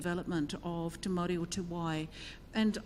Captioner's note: speaks in foreign language